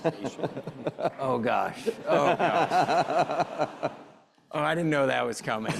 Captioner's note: chuckling